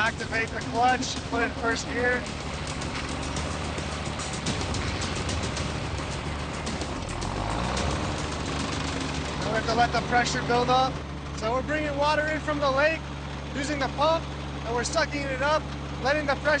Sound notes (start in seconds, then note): 3.0 motor puttering